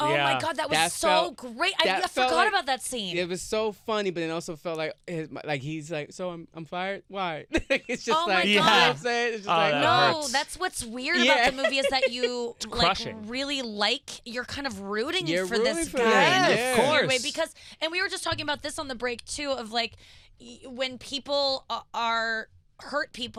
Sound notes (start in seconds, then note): 7.5 laughter